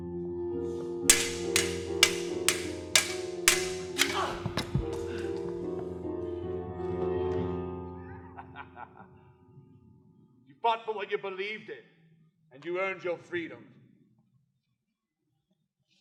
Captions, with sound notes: [swords clanking] -Ah! [maniacal laughter] -You fought for what you believed in, and you earned your freedom.